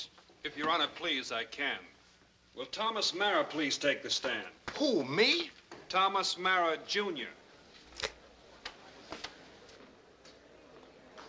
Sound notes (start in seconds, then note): 8.3 courtroom muttering